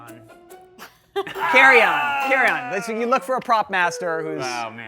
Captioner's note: group laughs